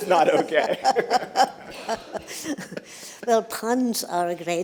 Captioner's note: laughter